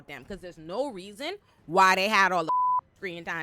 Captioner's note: beep